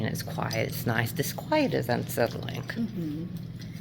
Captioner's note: none